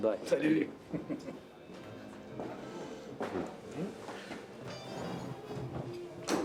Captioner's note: laughs